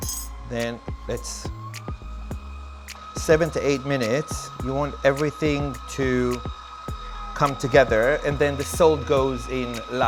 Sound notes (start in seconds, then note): 1.0 motor revving